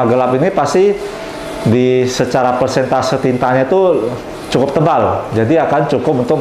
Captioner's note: printer machine sound